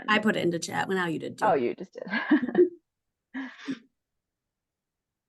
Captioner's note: laughs